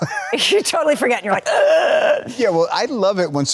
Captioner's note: gasping